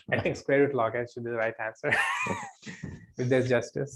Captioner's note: laughs